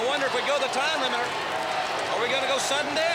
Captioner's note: crowd cheering